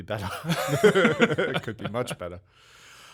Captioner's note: laughing